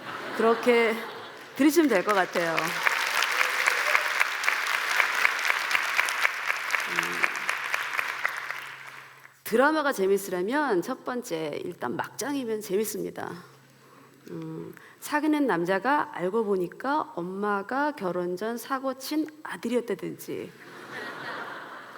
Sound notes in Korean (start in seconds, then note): 0.0 웃음; 3.6 박수; 20.6 웃음